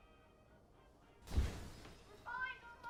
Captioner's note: ceiling rattles